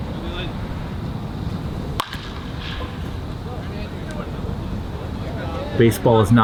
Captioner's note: in-field chatter